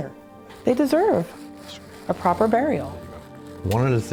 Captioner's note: plastic crinkling